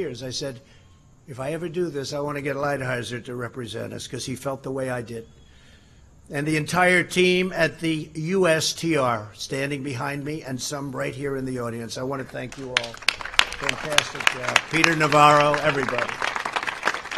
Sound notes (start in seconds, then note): 15.0 applause